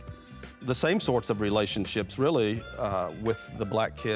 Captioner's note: none